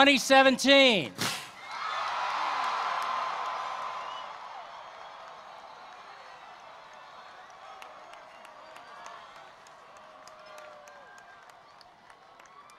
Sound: cheering and Applause

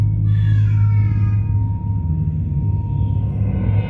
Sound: baby crying

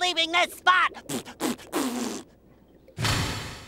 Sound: raspberries

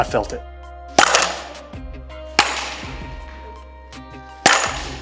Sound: baseball bat cracks

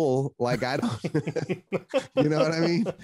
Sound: laughter

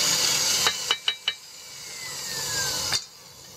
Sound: tapping

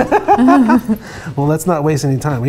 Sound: laughter

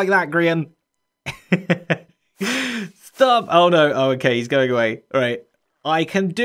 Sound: chuckles

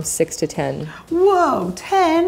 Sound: gasps

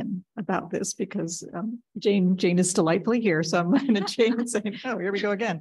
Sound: laughs

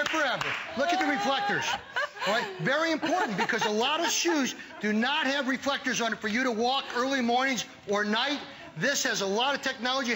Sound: laughter

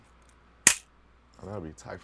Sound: mouse trap snaps

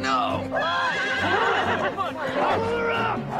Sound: horse neighing; wolf barking

